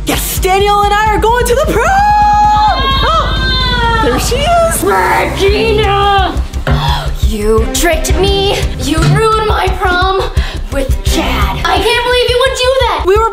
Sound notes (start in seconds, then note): 1.0 yelling